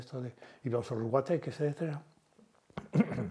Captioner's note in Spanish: Carraspea